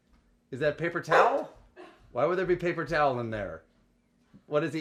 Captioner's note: barking